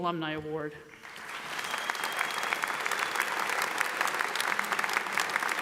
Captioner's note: audience applauds